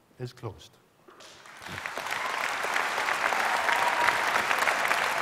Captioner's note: applause